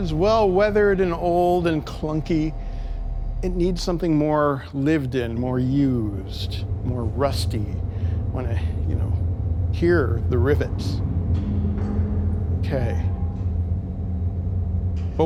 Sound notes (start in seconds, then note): 10.9 noisy industrial sounds